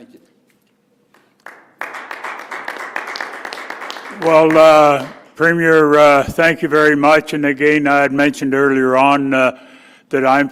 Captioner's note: applause